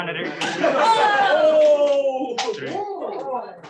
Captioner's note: shouting